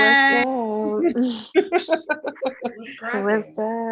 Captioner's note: laughing